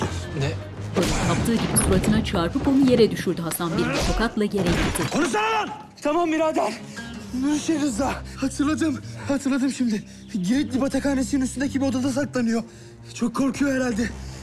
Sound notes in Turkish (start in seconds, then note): 0.6 Vurma sesi; 1.5 Düşme sesi; 4.6 Tokat sesi